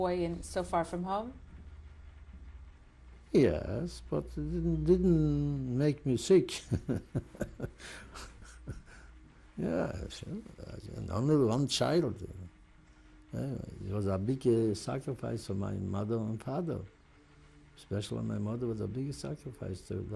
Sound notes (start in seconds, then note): 6.6 laughs